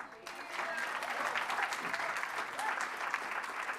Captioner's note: applause